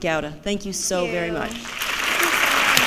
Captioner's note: applause